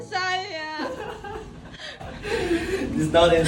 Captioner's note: roommate is laughing